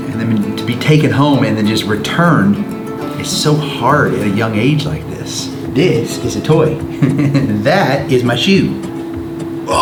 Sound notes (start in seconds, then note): 4.8 laughs